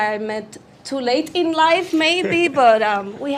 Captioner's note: chuckles